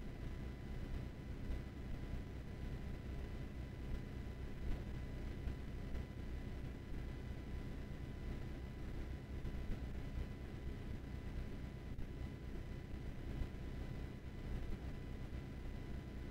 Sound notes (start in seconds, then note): none